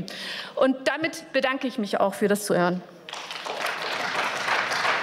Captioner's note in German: Beifall